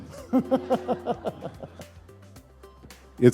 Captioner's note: laughter